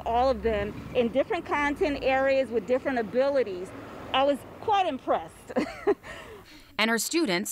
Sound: laughs

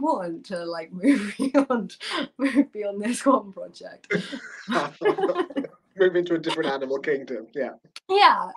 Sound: laughter

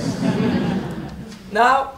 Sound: audience laughing

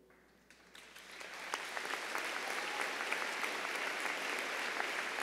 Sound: audience applauds

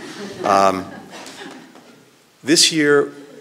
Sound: laughter

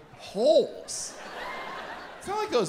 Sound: audience chuckles

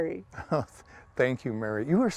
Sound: laughs

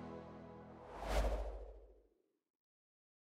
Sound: air whooshing

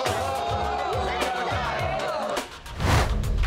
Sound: laughing

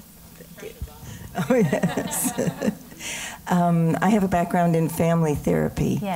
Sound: laugh

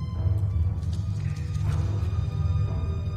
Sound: scuttling

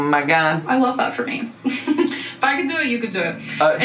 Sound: chuckles

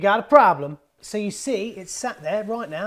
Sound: water running

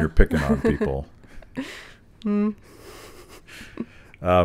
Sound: both chuckling

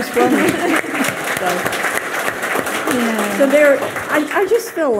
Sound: audience clapping

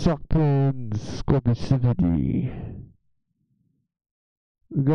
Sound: muffled mic noises

